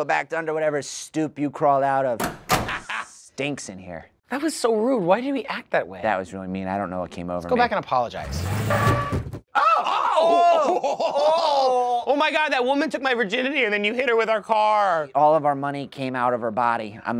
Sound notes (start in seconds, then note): 9.8 laughing